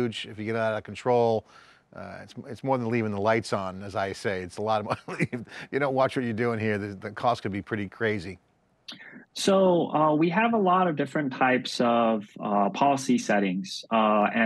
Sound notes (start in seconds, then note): 4.9 laughs